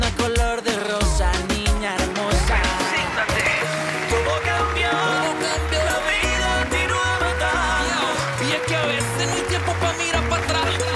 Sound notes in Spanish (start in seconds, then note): 2.4 Aplausos